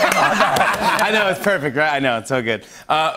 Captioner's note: laughter